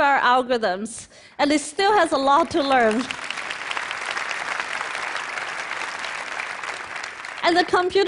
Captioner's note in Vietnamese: Thiên hạ vỗ tay